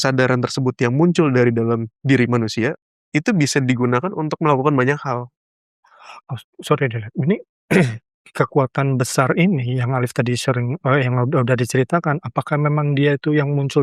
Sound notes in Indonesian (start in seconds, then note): 7.7 berdehem